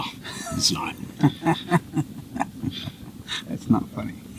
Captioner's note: group laughs cheerfully